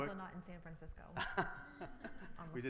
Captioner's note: laughs